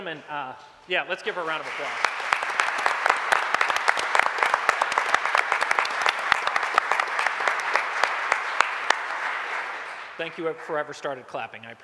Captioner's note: applause